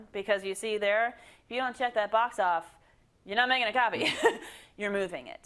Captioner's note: laugh